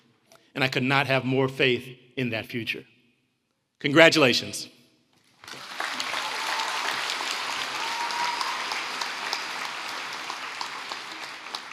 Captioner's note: applause